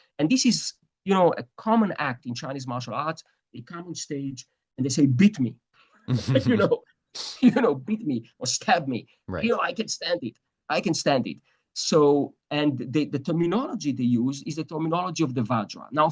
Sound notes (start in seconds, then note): 6.1 laughs